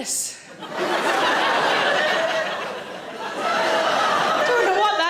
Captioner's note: audience laughing